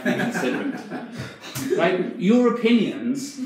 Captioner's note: audience laughs